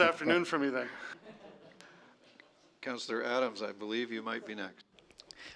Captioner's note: laughter